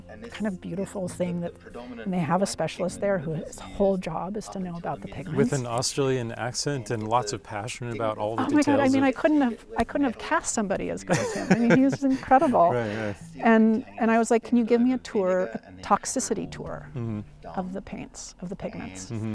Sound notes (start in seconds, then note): 11.1 laughs